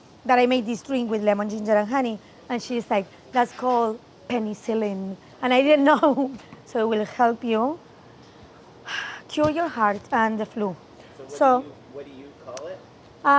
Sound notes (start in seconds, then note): 5.9 chuckles